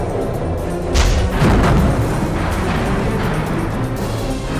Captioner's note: bomb exploding